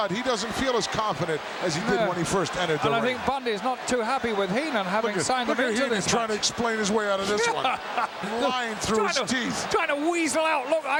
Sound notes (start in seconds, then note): 8.2 laughs